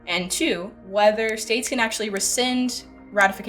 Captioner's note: words click